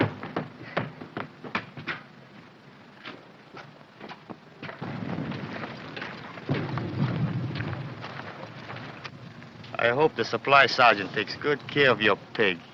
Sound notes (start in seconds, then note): 4.8 explosions in distance